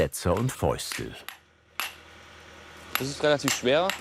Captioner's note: excavator humming